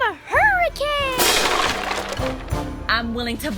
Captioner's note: crashing